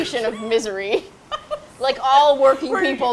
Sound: laughs

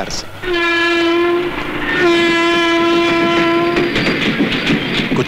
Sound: train horn blares

